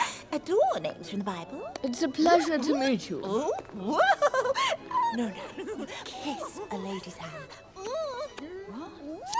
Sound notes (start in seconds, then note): 4.8 whispering